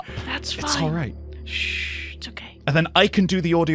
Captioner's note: whispering